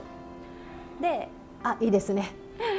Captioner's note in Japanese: 呼吸音